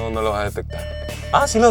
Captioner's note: alarm beeping